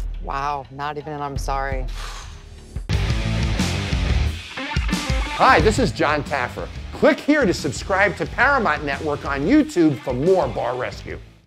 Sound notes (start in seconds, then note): 2.0 sighs; 2.8 rock music